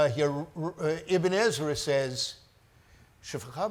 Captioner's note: speaks foreign language